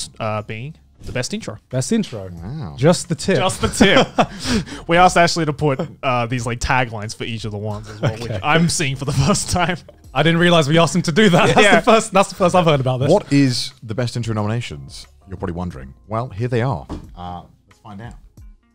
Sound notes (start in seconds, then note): 3.4 laughs